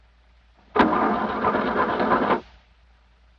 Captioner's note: ignition sputters